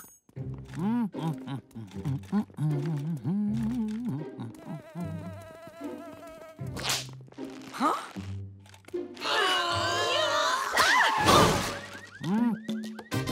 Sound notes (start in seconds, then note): 0.7 humming; 4.4 buzzing